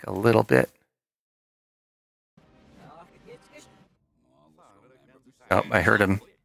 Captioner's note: reversed audio